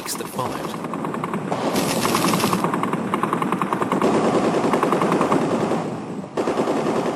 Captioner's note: artillery blast; guns fire rapidly